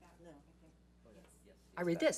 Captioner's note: woman speaks off mic